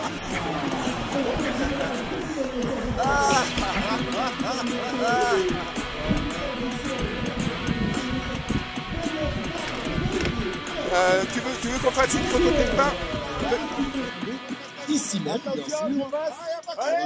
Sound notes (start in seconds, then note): 2.9 laughing